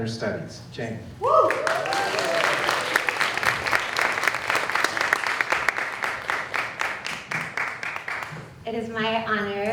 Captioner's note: applause